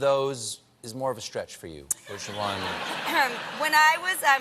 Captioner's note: laughter